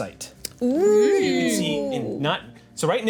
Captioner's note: group oohs